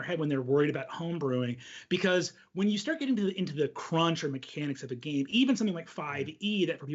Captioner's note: none